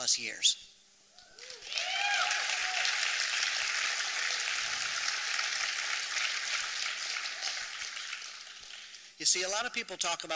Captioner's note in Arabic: تصفيق